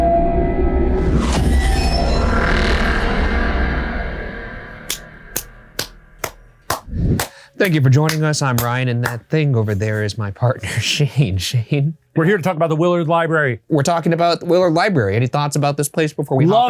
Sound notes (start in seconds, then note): 0.0 eerie music; 5.0 Shane clapping